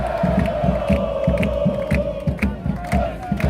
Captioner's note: cheers